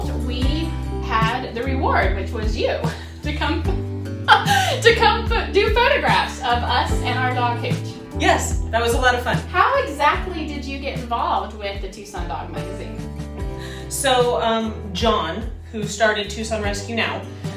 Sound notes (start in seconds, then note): 4.2 laughing